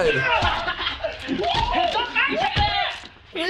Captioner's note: men laughing